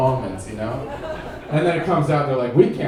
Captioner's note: audience laughing